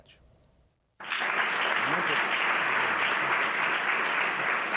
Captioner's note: audience applauds